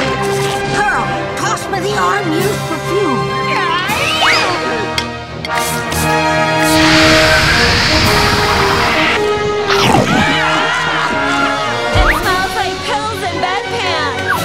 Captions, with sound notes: Pearl, toss me the Autumn Years perfume. [grunting] [screaming] It smells like pills and bed pans!